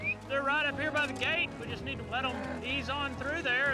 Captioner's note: whistling